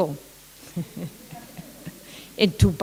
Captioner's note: laughter